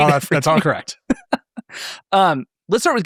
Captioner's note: laughing